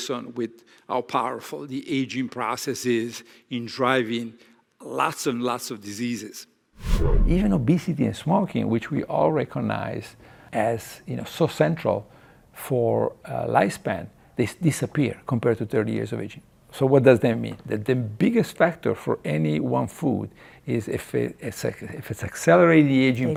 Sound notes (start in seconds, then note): 6.8 transition sound effect